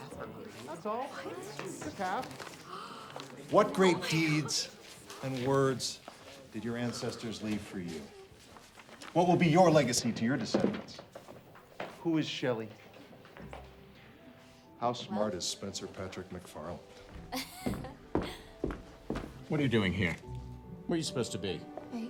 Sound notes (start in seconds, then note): 17.3 student laughs